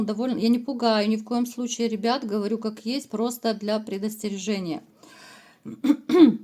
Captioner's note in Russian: откашливается